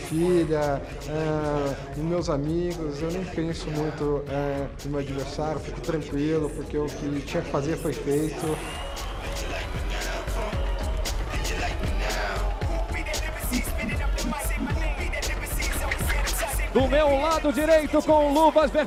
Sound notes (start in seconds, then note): 7.7 crowd cheering; 12.6 whoosing; 17.0 announcer speaking Portuguese